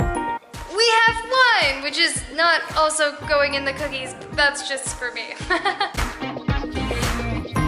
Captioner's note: laughter